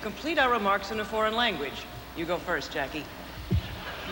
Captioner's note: speaking french